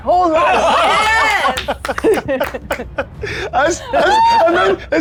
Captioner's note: players laughing